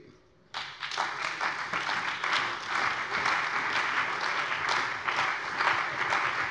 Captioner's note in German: Beifall bei der CDU und dem BÜNDNIS 90/DIE GRÜNEN